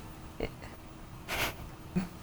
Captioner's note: quiet laughter